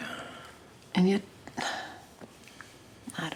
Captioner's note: sighs